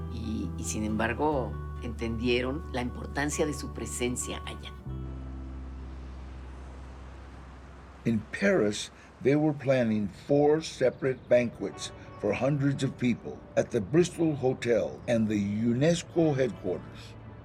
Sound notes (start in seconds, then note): 8.2 in English